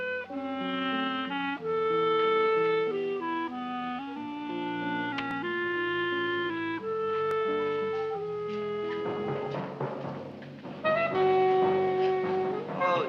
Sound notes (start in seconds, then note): 0.1 placid music; 5.2 switch clicking; 5.5 dramatic music